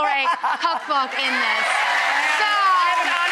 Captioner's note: audience applauds and laughs